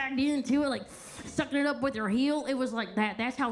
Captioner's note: sucks air